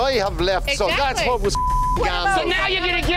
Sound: beep

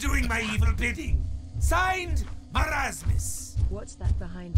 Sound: whispering

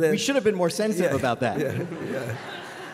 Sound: laughter

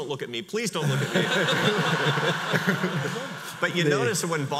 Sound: audience laughs

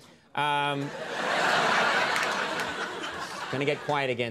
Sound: audience laughing

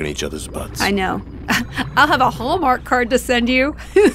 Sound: laughs

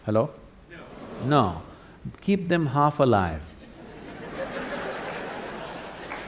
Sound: laughter/Applause

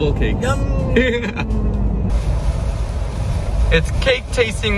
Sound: laughing

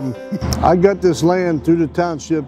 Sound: laughs

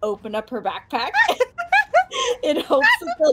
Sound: laughs

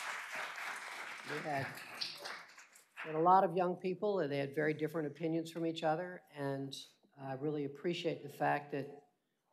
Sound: applause

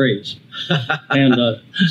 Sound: laughs

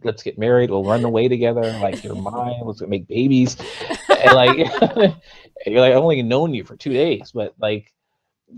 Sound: laughs

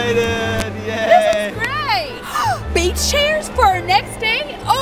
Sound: gasps

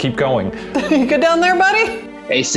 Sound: laughs

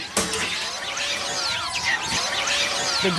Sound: monkeys squawking and screeching

